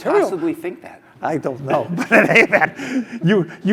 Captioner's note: laugh